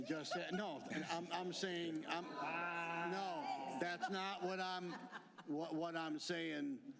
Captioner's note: laughter